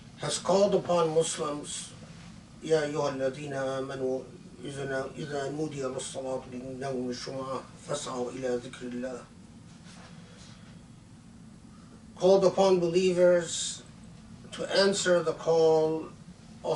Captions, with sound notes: has called upon Muslims... (Arabic) Called upon believers to answer the call